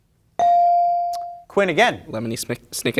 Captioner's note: bell ringing